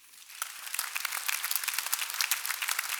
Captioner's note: clapping